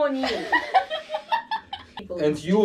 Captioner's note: is laughing so hard; desperately suppressing laughter